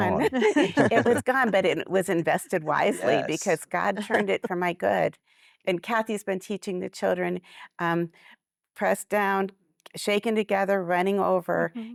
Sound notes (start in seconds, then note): 0.0 laughter